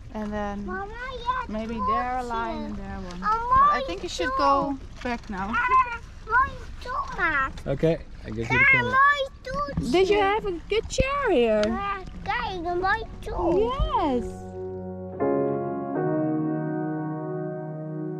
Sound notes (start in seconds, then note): 5.5 babbling; 14.4 mid-tempo music